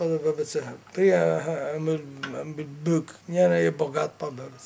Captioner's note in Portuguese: falando resiano